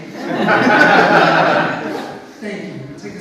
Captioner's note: audience laughs